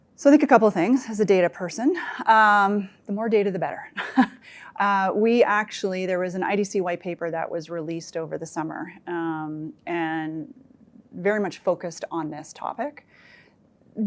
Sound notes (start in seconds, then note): 4.0 chuckles